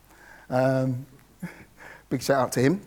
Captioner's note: laughs